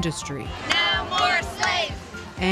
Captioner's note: crowd